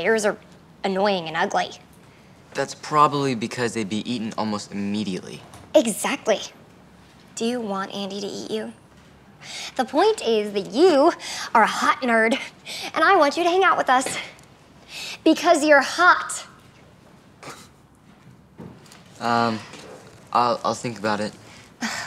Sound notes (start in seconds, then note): 18.3 scoffs